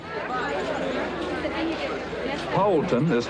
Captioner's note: people talking